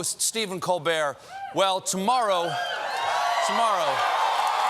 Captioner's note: cheers and applause